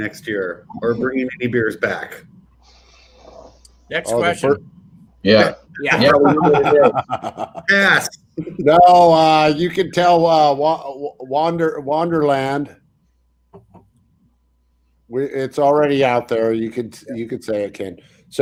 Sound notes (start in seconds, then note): 6.0 all laugh